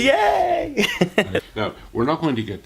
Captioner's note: laughter